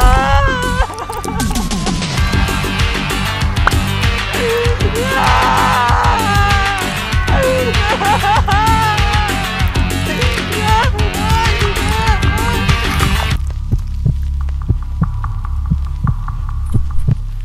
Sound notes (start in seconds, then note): 0.1 police sirens; 9.6 bites audibly